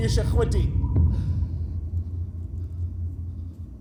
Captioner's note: whirring stops abruptly with a thud